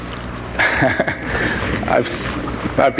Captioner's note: laughs